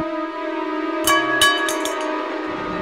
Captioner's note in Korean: 쇠파이프가 땅에 떨어지는 소리